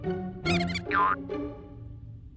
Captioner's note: mouse squeaks